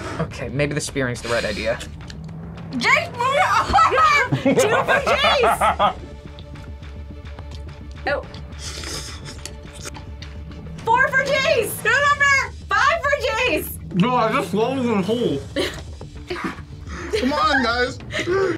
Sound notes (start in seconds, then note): 3.3 both laugh